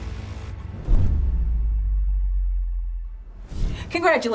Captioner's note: logo whooshes